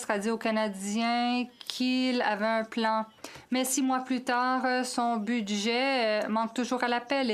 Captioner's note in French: voix de l'interprète